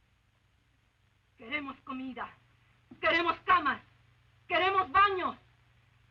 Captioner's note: Esperanza speaking Spanish